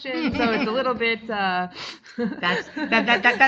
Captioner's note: laughing